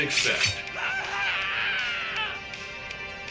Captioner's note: painful scream